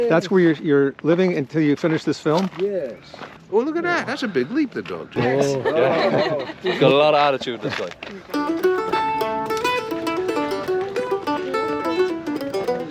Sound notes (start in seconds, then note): 5.2 everyone laughs; 8.1 irish music